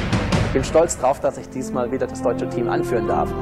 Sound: speaking german

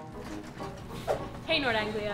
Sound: curious music; whoosh

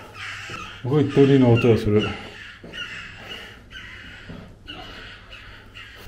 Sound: I hear the birds singing

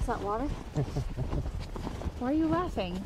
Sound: laughing

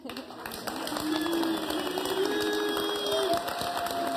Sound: audience applauding

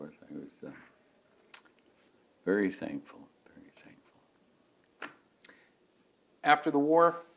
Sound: taps fingers on the table

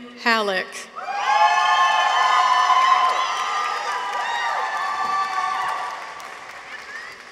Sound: people cheer; audience applauds

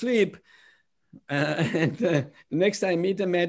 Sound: laughter

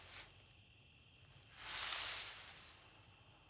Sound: leaves rustling

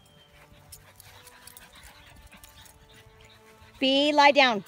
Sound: dogs panting

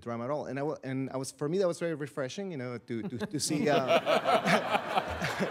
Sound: all laughing

